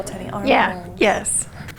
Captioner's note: laughs